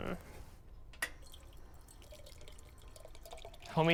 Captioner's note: water dribbling